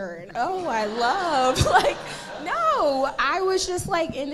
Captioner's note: audience laughing